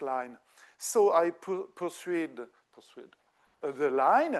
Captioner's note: speaking French